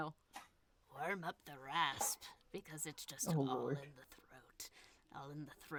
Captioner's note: in Vespa voice